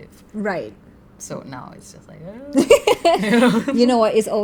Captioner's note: laugh